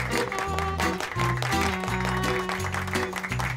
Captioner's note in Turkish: Alkışlıyorlar